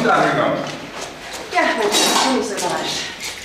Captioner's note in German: none